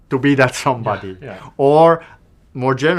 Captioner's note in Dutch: lacht